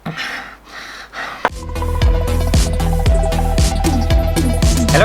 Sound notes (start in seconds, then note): 0.0 gasping; 1.5 intro Music